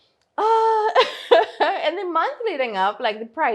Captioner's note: laughs